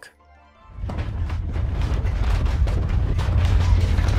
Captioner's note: banging